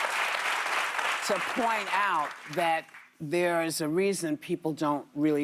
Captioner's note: applause